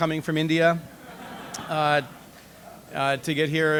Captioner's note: audience laughs